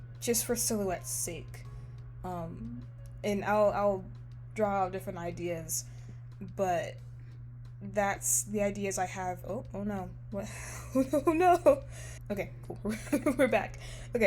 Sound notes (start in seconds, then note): 10.4 laughs